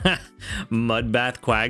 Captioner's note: laughs